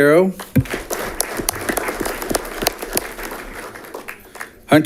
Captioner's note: audience clapping